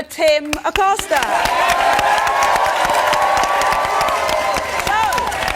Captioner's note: audience cheers and applauds